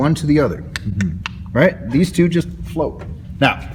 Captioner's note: 3 clicking sounds